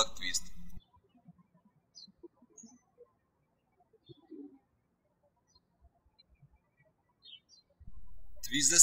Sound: birds chirping

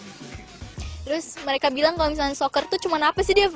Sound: non-english speech

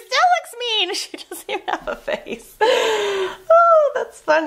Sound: laughs

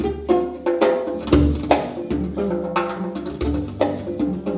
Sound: none

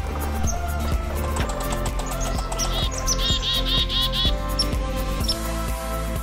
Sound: squirrel sounds

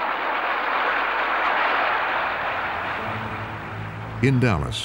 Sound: laughter and applause

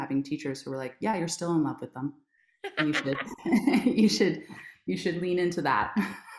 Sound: laughs

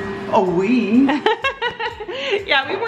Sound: laughs

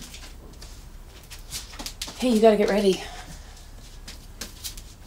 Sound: none

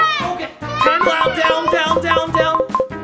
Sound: shouts; remote beeping

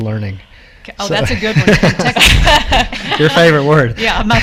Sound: laughs

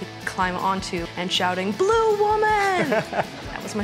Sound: laughs

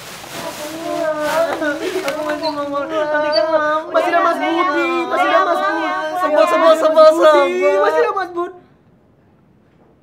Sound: arguing

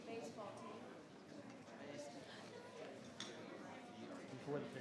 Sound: group chattering

